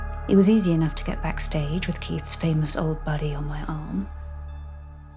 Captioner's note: none